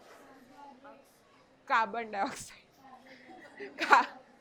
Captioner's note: giggles